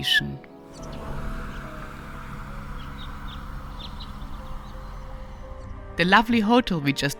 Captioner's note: birds tweeting; car whooshing